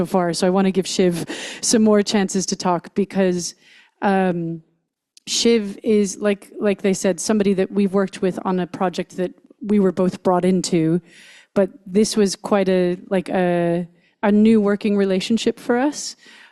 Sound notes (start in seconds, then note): none